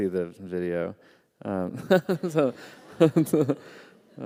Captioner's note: laughter